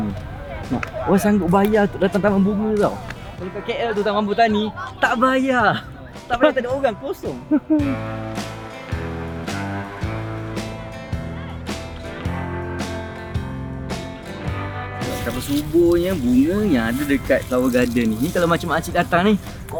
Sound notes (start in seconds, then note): 7.4 laugh; 8.2 background music